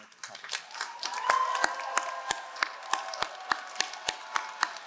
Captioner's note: all applauding